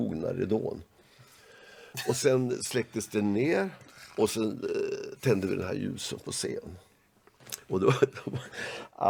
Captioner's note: laugh